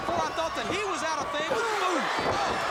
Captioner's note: crowd chatter